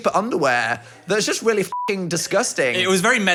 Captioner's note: beep